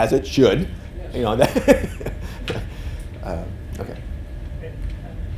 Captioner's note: laughs